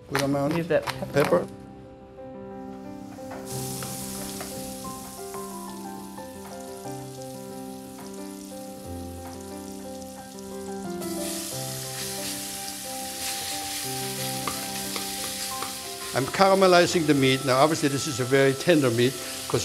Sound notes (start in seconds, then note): 3.5 pan sizzles; 3.5 peaceful music